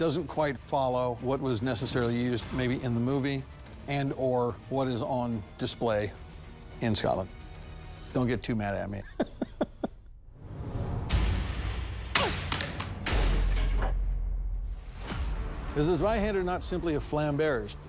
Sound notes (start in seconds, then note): 9.0 laughs; 12.1 whacking